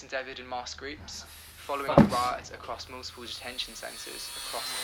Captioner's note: sighs